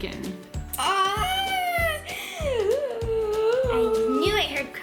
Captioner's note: gasping